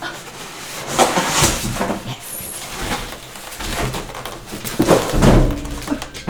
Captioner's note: clunks and clangs